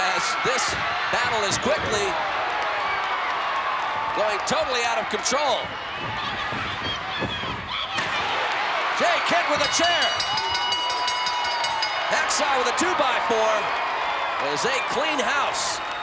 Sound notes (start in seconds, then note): 2.9 crowd applauds; 6.5 feet scampering; 8.1 chair slamming on back; 9.0 crowd cheering; 9.2 bells ringing